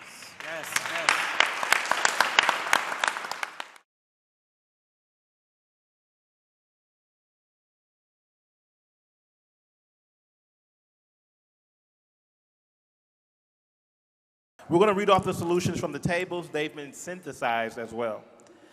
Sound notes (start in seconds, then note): 4.9 audience applauding